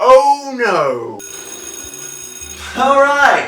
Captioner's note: school bell rings